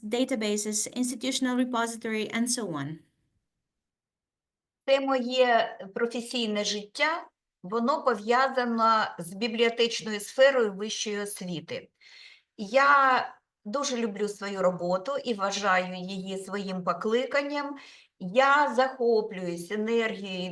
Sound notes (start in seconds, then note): 4.9 speaking Ukrainian